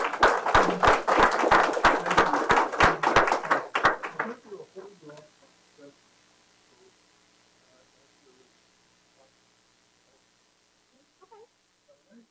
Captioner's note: applause